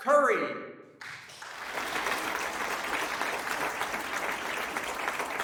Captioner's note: audience clapping